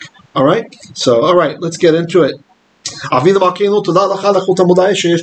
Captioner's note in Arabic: صلاة عبرية